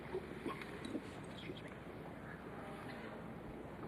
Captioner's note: gulps